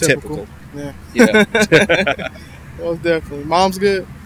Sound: both laughing

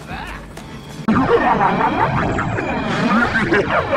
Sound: laughs

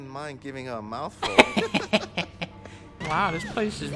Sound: chuckling

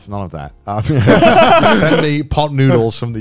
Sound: laughing

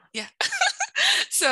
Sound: laughs

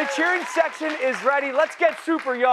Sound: cheers

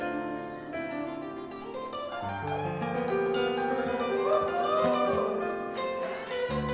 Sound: piano and guitar music; guitar solo; audience cheers

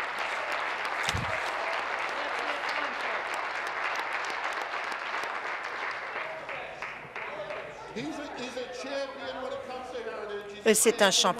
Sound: applause

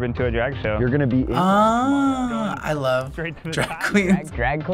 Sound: chuckles

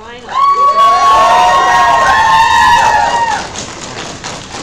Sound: applause

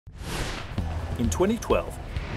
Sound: whoosh

